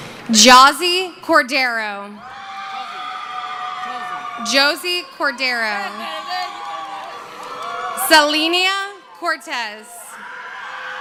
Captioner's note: screaming; cheering